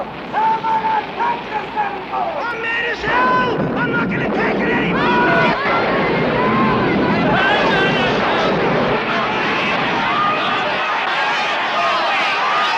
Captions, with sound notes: and I am not going to take this anymore. - I'm as mad as hell, I'm not going to take it anymore. (people shouting)